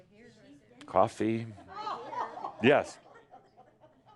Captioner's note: a few giggles